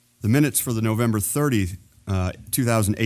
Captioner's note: none